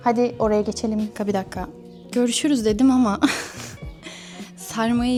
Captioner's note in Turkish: kahkaha